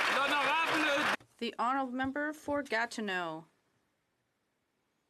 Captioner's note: some Applause